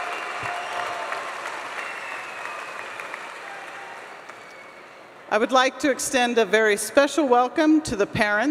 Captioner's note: applause